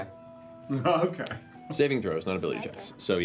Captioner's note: laughing